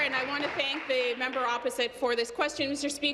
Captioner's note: applause